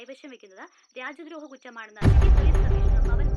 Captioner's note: TV news